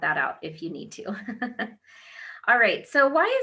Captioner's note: laughs